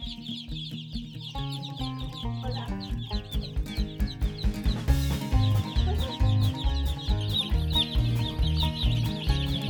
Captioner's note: birds chirping